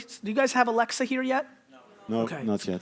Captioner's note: crowd